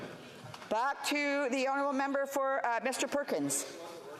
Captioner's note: speaking FRENCH